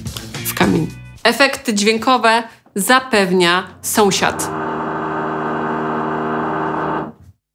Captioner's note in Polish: wiercenie